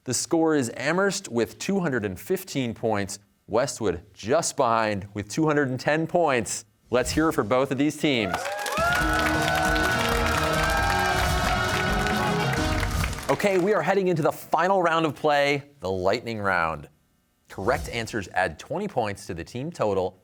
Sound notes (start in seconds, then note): 8.2 cheers and applause